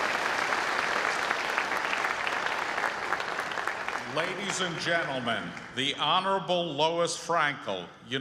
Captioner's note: applause